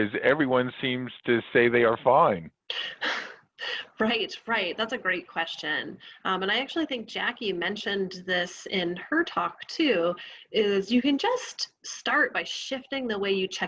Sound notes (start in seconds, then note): 2.7 chuckles